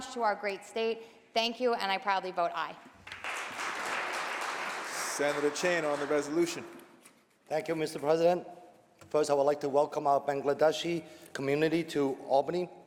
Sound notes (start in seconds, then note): 3.0 applause